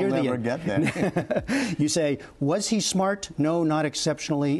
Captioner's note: laughter